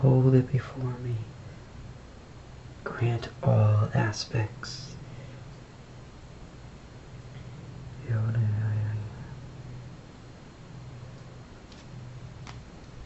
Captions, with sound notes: Hold it before me. Grant all aspects. (foregin language)